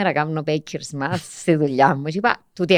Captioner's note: he laughs